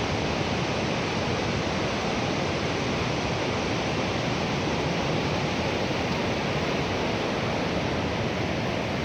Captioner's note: sound of mountain river